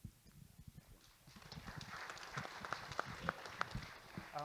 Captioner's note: audience Applauding